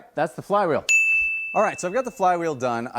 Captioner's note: bell chiming